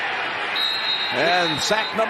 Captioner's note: whistle blowing